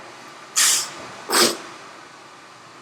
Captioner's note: sips